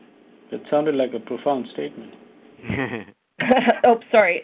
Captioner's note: laughter